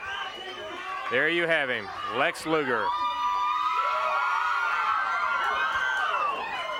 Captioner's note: crowd cheering